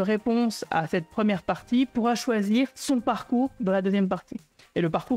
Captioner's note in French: none